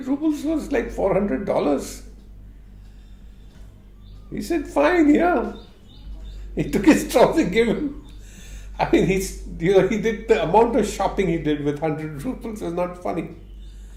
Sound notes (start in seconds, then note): 6.1 laughs